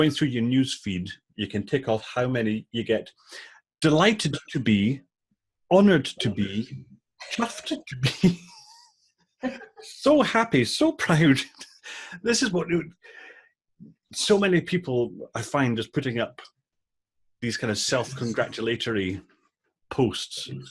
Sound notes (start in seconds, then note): 9.4 laughing